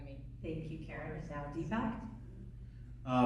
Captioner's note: voiceover